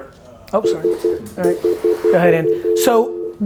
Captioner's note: beeping